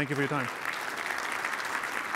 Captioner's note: applause